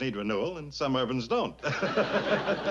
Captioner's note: chuckles